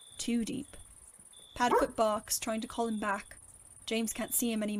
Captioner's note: bark